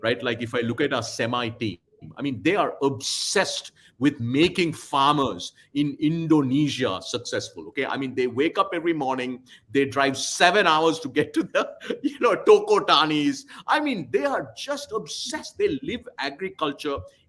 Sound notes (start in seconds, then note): 11.4 laughs